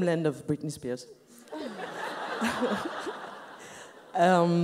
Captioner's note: laughs